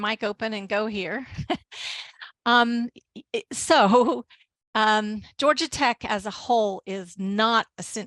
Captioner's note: chuckles